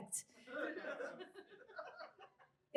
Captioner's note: scattered chuckles from audience